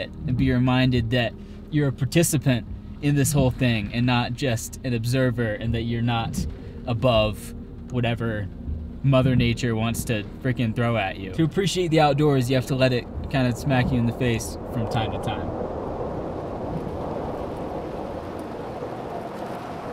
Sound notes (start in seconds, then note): 16.2 wind blowing